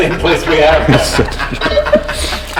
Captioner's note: laughing; laughter